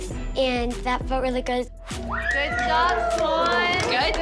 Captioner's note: cheering